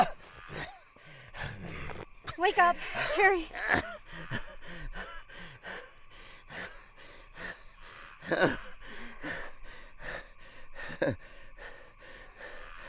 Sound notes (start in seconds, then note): 0.0 Dogmouth gasps; 4.7 Dogmouth gasping; 8.6 Dogmouth moans; 11.3 Dogmouth chuckles